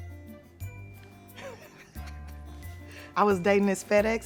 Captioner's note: Tiffany laughs